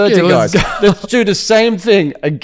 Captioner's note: laughs